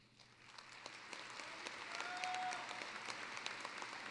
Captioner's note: applause